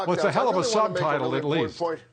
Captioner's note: laughter